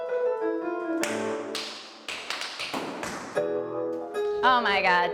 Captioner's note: tap dancing